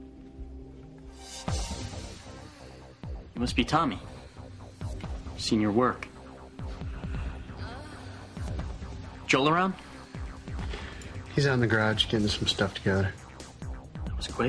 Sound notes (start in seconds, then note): 6.5 scoffs; 6.8 woman in the song moans with reverb